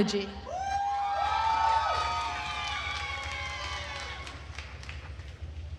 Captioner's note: attendees cheering and applauding